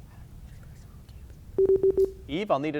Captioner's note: buzzer beeping